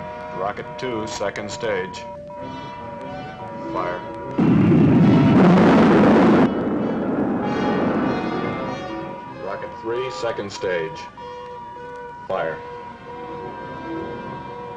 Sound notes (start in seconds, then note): 4.9 rocket rumbling